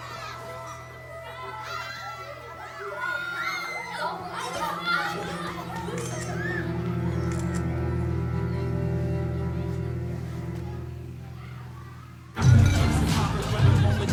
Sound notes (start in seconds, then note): 7.2 camera shutter clicks; 12.3 hip-hop music playing